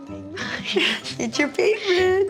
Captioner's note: chuckles